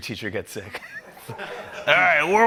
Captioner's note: laughter